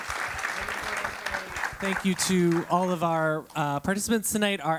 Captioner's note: applause